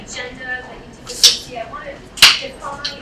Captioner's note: speaking away from mic